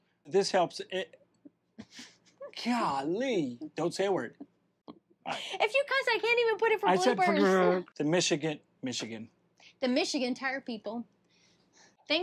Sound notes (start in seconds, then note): 1.8 laughs